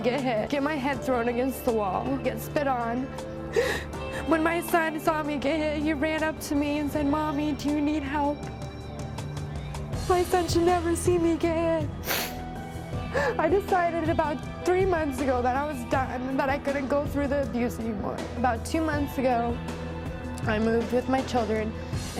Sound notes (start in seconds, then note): 3.5 sobs; 12.0 sniffs